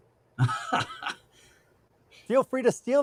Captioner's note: laughs